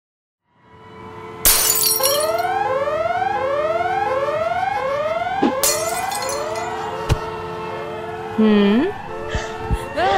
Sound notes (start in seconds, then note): 1.4 breaking glass and sirens